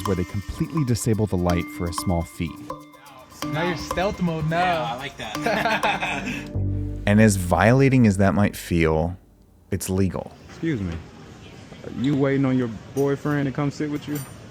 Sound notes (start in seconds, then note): 5.4 all laugh